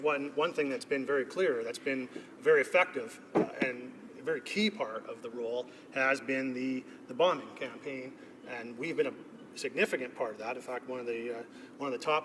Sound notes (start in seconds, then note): none